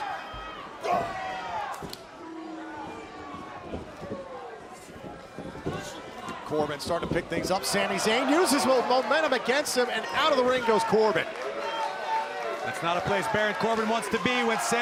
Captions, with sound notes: SHUT UP A LOT OF DOUBTERS. >> [CROWD CHATTER] >> CORBIN STARTING TO PICK THINGS UP. SAMI ZAYN USES MOMENTUM AGAINST HIM AND OUT OF THE RING GOES CORBIN. >> [CROWD CHATTER]